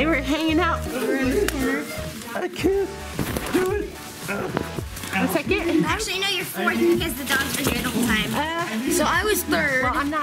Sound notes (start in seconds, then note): 4.2 groans